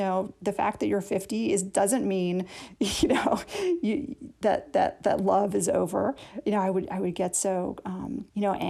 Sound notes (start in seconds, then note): 2.9 laughter